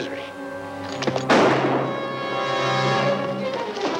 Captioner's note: gun firing; suspenseful music